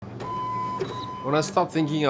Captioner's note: machine beeping